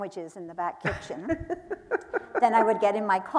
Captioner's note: laughing